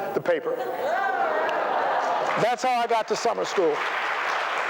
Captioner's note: laughter; applause